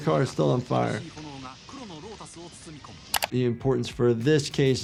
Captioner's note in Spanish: el comentarista habla en idioma extranjero